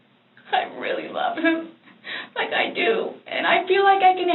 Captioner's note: tearful